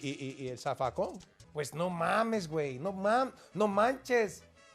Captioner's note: speaking Spanish